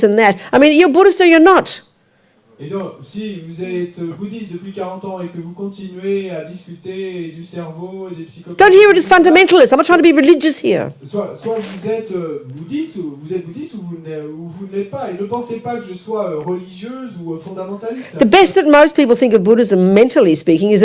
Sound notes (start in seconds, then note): 2.3 audience member speaks in French; 11.3 audience member speaks in French